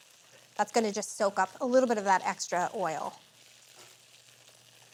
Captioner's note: gentle sizzling